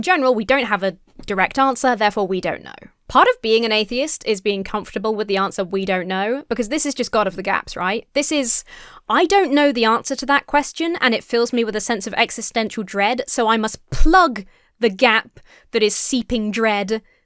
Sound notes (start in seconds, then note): none